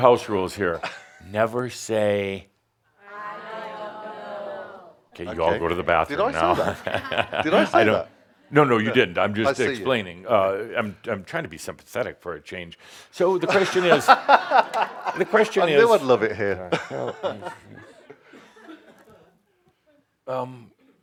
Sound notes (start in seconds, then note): 6.5 Adamus chuckles; 13.4 laughs out loud